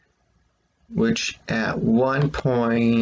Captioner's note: click of trackpad